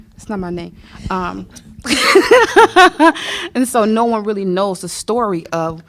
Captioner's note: laughter